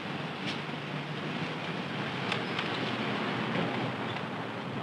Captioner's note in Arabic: حركة المرور الصاخبة